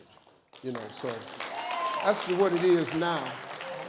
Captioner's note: audience claps and cheers